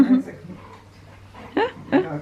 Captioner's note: laughs